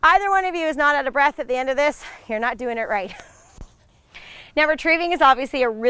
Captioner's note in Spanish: risas